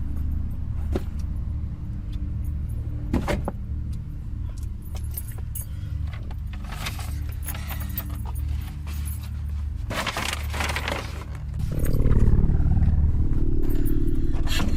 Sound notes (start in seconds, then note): 2.9 car door closing; 6.1 bags rustling; 12.0 air quavering